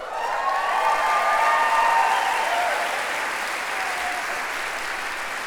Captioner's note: applause